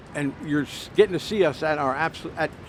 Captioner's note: none